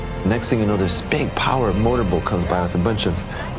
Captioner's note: motor noise